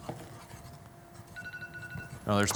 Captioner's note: beeping